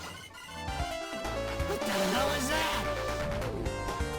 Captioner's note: slightly distorted